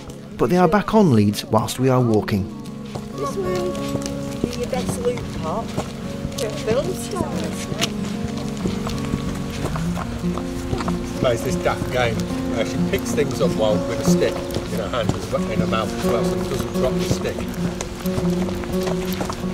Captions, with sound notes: but are back on leads whilst we are walking. (sound of distance talking)